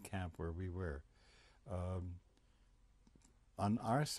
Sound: pauses for 3 seconds

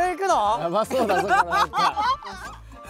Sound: haha

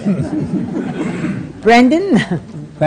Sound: laughter

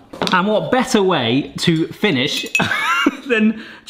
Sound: chuckles

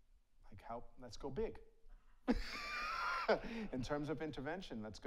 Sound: laughs; audience laughs

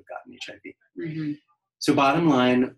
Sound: noise of agreement

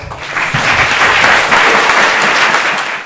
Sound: audience applauds

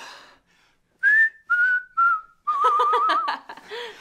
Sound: whistles

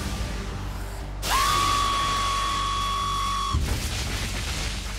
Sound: shrieks

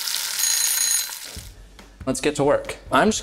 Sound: timer ringing

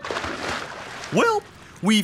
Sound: splashing

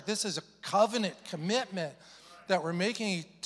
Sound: none

